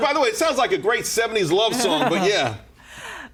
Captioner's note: laughter